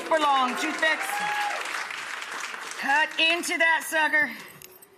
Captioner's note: audience applauds